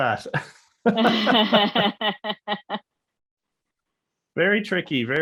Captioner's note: laughing